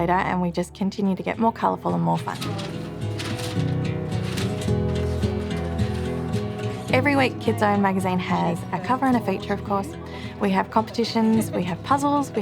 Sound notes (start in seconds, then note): 2.1 toys rustling; 4.5 gentle string music